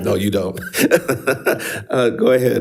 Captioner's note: laughs